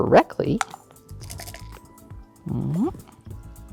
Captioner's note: dice rattling